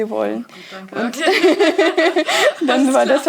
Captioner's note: laughter